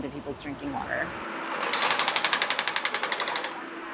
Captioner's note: construction noise